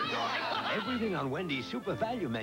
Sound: other relatives cheer

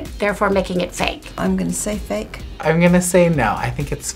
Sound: none

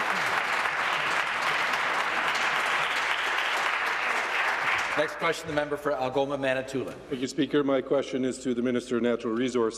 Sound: applause

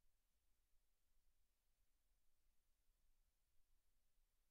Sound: none

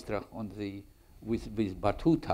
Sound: speaks in foreign language

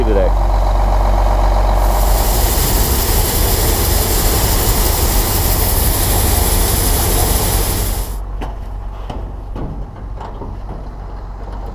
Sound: grain falling

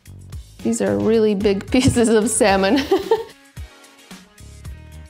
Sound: laughing

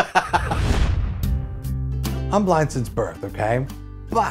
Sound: laughs; swoosh / music plays

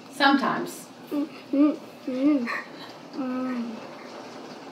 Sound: vocalizing

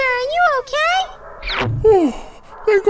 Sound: dog barking up into the chimney

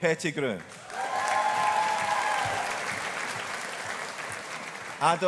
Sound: audience applauding

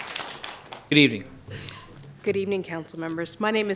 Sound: applause

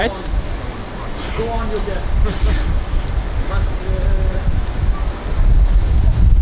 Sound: speaking foreign language

